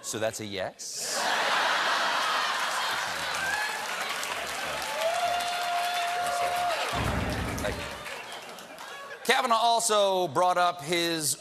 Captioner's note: laughter